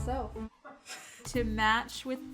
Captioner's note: laughing